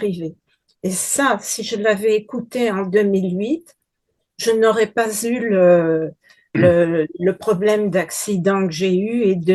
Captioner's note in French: raclement de gorge